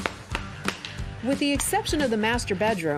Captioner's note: banging